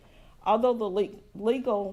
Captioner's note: none